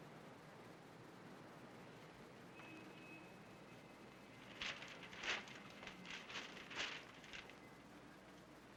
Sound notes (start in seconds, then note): 4.3 paper rustles